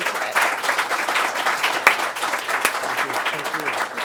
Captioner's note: applause